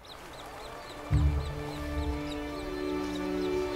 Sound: birds chirping; warm music

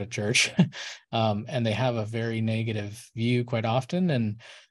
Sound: laughs

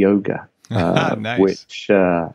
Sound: laughing

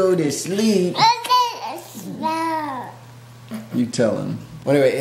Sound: baby babbling

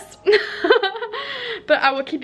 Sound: laughs

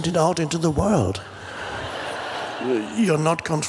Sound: crowd laughs

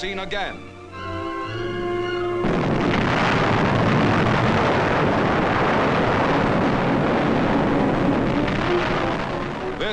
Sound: music, explosions

